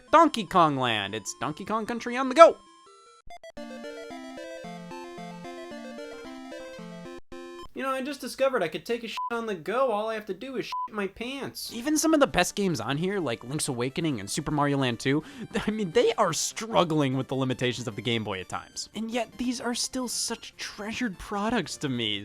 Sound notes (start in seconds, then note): 2.7 arcade music; 9.2 beep; 11.0 beep